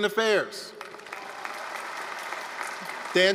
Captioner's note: applause, cheering